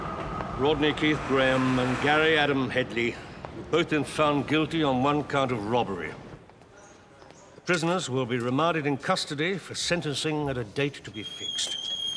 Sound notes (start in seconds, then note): none